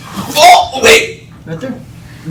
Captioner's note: man grunts